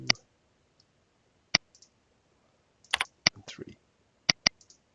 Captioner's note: mouse clicking